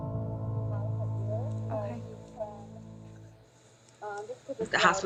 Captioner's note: nurse and speaking on phone